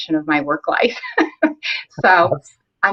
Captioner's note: laughs